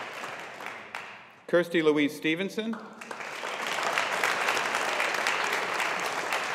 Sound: audience applauding

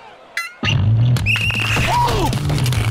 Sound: blows whistle

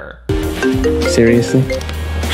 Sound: phone ringing

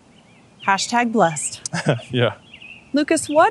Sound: laughter

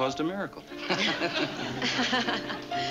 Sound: laughing

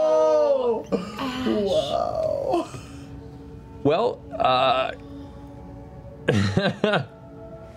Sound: laughs

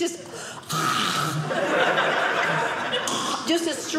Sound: audience laughing

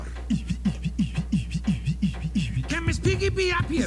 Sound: beatboxing

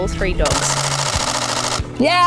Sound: camera shuttering rapidly

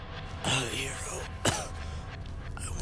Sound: cough

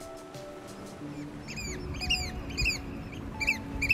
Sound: bird sounds

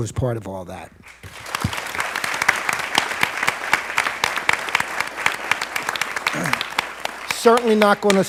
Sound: applause

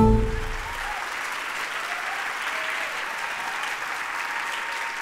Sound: applause

